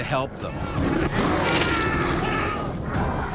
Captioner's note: bear growling; flesh ripping; yelling